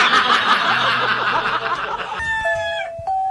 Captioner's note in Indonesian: tertawa